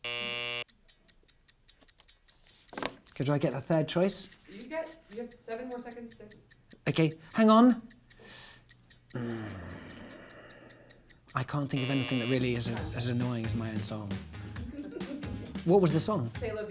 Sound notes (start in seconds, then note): 0.0 buzzer buzzing; 0.9 clock ticking; 8.2 clock ticking; 11.7 buzzer buzzing; 14.4 upbeat music; 14.6 laughing